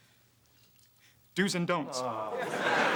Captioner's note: Titus groans